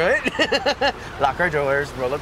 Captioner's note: laughing